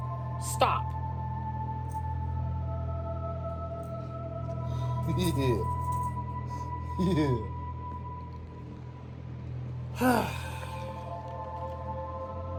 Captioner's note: laughs and giggles; makes a frustrated groan